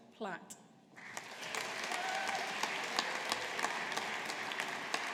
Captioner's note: audience applauding